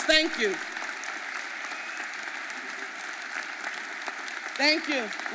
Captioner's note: audience applauding